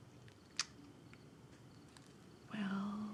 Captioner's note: Tania clicks tongue